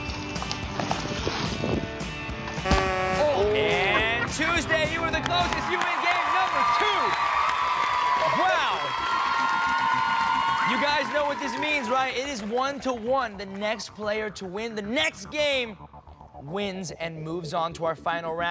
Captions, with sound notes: [horn buzzes] >> OOH. >> AND TUESDAY, YOU WERE THE CLOSEST. YOU WIN GAME NUMBER TWO. [applause] WOW. YOU GUYS KNOW WHAT THIS MEANS, RIGHT? IT IS ONE TO ONE. THE NEXT PLAYER TO WIN THE NEXT GAME WINS AND MOVES ON